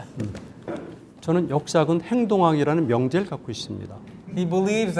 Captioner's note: speaking in Korean